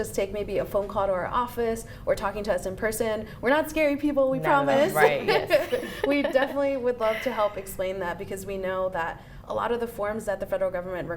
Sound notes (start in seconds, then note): 4.9 laughs